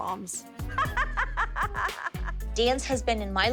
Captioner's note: laughs